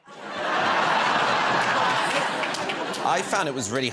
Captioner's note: laughter